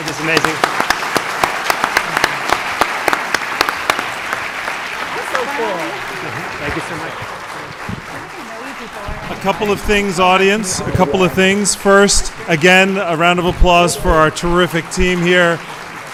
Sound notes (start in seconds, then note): 1.5 applause